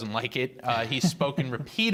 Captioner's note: laughter